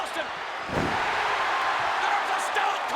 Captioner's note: audience cheers